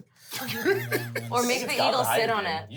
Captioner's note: laughs